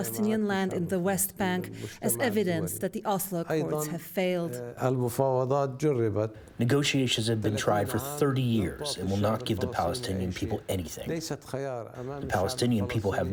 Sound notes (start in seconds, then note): 7.0 through translator